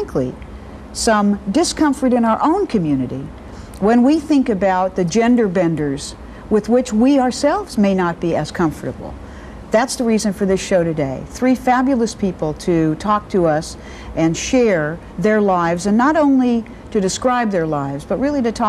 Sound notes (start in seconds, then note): none